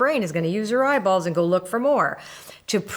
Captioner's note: none